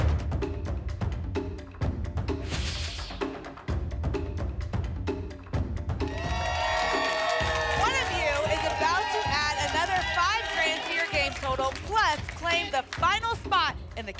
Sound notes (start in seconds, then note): 6.0 applause and cheering